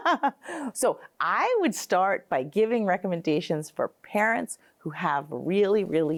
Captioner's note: laughs